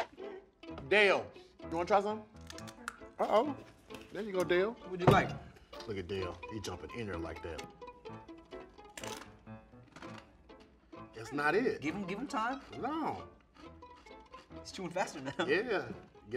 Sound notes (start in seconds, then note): 8.8 bread crunching